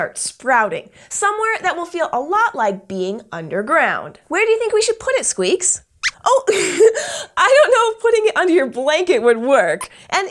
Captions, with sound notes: sprouting — somewhere that will feel a lot like being underground. Where do you think we should put it, Squeaks? [Squeaks squeaks] Oh, I don't know if putting it under your blanket would work.